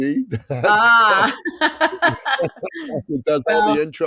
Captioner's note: laughter